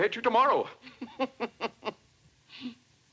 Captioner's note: chuckles